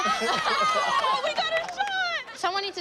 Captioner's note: laughter